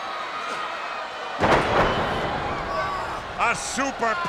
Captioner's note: body thudding